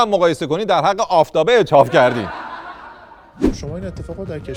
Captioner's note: laughter